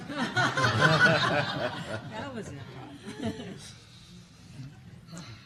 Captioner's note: laughter